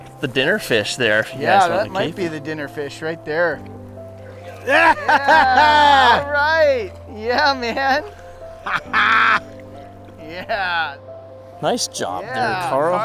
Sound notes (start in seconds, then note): 4.4 all cheering; 8.5 excitedly shouts